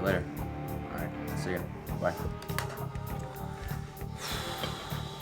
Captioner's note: exhales